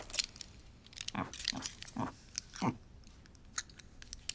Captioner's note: pig grunting